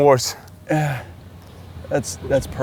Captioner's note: gasps